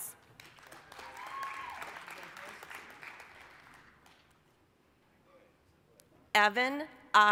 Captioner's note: applause, cheering